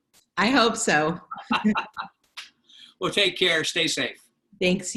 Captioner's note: laughter